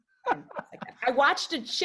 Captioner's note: laughs